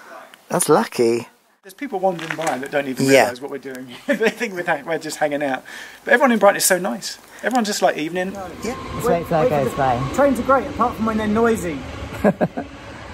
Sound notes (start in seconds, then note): 7.4 train noises